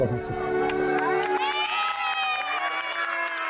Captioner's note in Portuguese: Gritos e aplausos